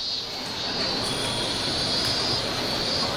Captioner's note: city ambience